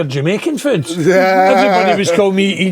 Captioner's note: laughing